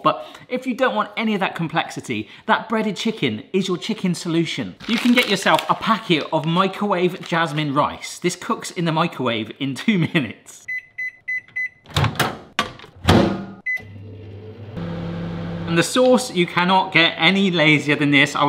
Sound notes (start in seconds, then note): 10.7 microwave beeping; 12.5 microwave door clunking; 13.6 microwave beeps; 13.6 microwave whirring